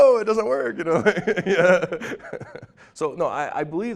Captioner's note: laughing